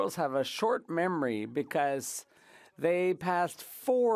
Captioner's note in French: voix de l'interprète